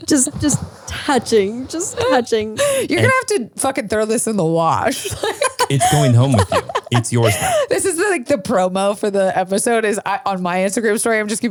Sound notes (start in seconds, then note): 5.0 laughs